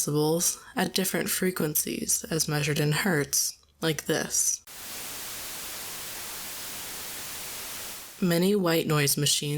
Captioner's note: white noise